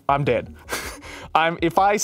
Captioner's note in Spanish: ríe